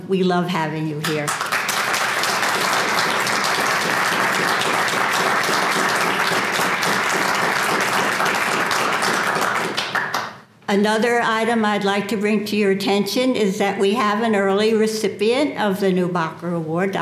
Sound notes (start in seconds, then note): 5.1 applause